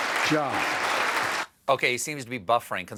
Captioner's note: applause